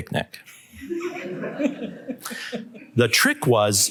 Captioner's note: laughter